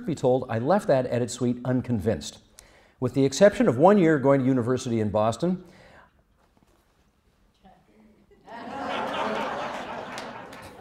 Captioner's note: laughter